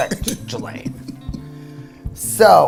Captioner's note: laughs